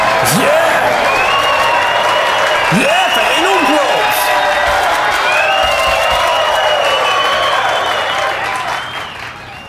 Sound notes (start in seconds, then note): 0.9 audience cheering; 5.6 audience continues cheering